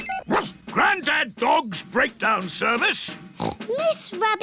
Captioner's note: line rings; barks; snorts